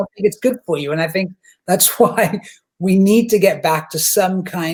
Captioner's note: chuckles